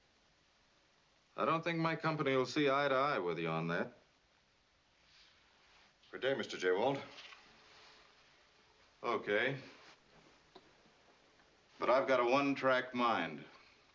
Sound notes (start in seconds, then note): none